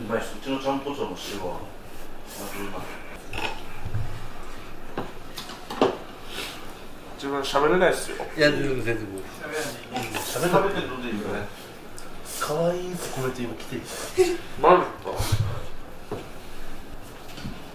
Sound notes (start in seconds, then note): 13.9 laughs